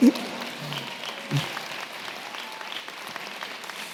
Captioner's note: applause